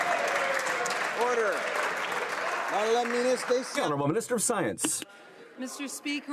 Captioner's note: some Applause